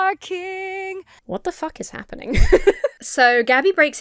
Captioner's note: laughs